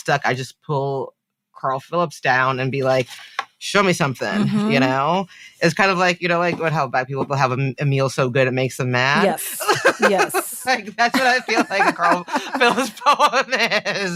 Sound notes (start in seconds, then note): 9.1 she laughs